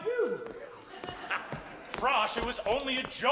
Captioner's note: audience chuckles